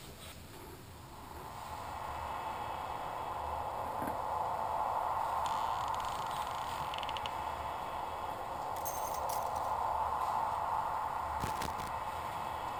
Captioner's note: ominous sounds